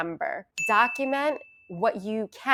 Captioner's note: bell ringing